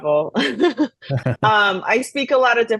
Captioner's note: both laugh